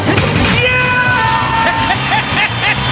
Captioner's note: Mike Wazowski scream; laughs